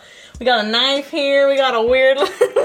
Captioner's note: laughs